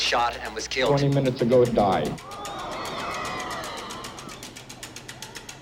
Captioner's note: audience screaming